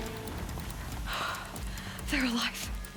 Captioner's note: sigh